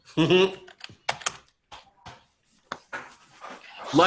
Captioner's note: chuckles